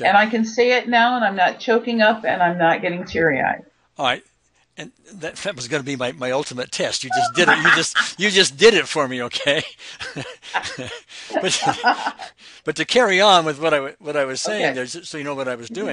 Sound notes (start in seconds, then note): 10.9 laughs